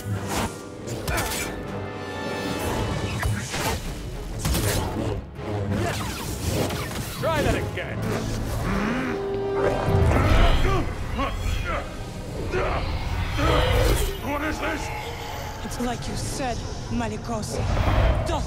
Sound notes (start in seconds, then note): 8.5 growls; 10.4 strains, grunts with exertion